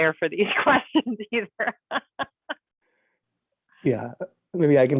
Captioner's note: laughing